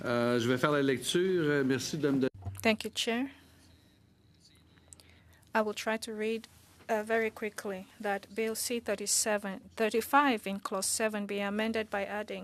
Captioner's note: speaking French